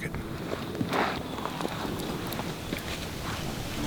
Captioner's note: sound of movement in the tree